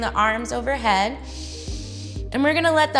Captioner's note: inhales